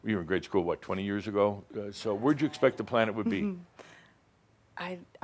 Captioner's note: she giggles